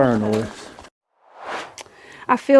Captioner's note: swoosh